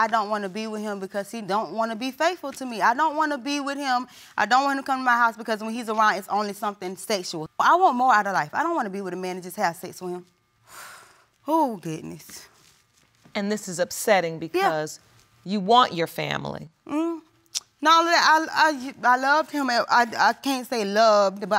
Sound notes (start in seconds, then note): 10.6 exhales; 17.1 stammers